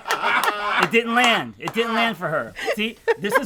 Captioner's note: group chuckles; claps